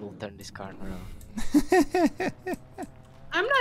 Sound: laughs

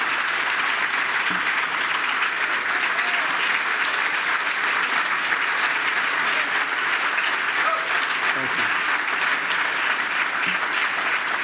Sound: applause

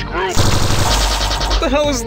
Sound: lasers firing

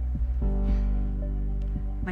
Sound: sigh

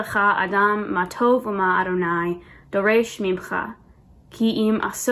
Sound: speaks Hebrew

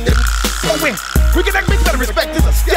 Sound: rattling

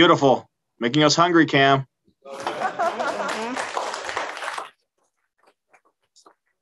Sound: applause

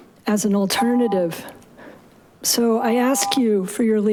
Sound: continuous beeping

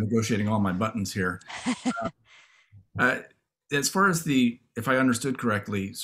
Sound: laughter

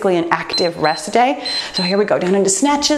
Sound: timer beeps

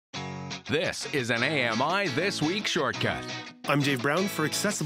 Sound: voiceover

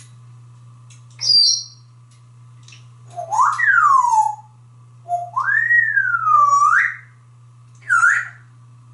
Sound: whistles

